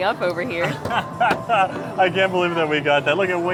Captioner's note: laughs